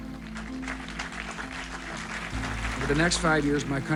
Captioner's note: applause